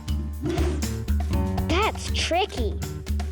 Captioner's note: air whooshing